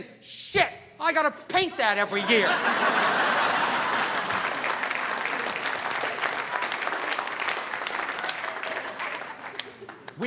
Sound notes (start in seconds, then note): 1.7 audience laughing; 2.4 audience applauding